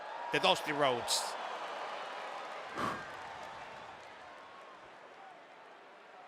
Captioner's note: applause